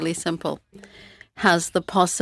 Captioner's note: speaking French